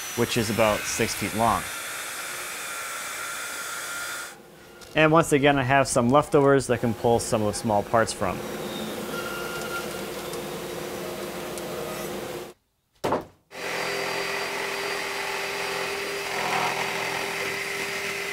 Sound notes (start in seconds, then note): 8.2 machine buzzing; 13.5 saw buzzing